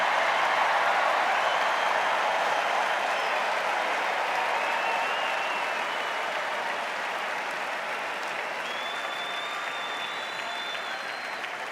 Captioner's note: extended cheers and applause